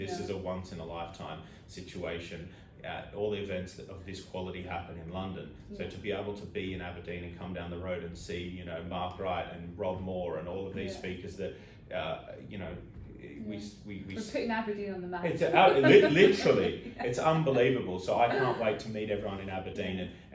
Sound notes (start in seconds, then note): 15.3 laughing